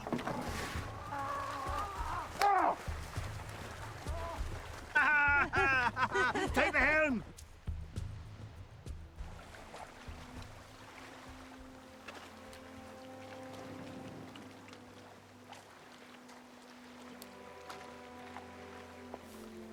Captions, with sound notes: (men yell) (man and woman laugh) - Take the helm! (orchestral music)